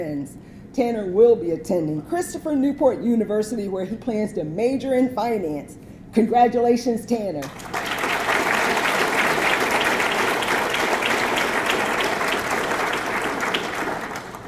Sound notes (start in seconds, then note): 7.4 audience clapping